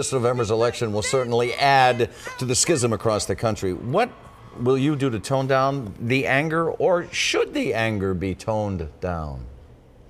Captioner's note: cheering